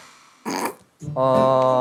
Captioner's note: laughs